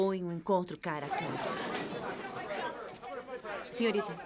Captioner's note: chatter